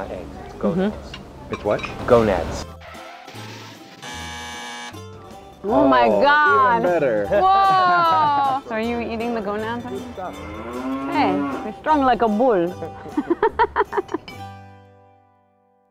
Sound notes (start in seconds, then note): 3.0 sound: Car tires skidding followed by crash and buzzer; 12.8 laughing